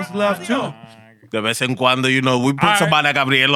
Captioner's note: non-english Speech